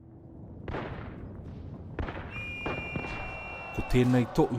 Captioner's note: gunfire, whistle and war sounds; speaks memorial text in Māori